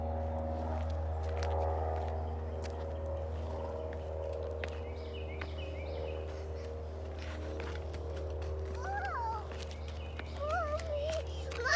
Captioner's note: airplane noise overhead